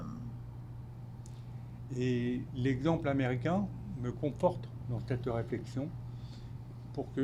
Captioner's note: speaking French